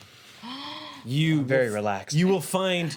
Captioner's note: gasps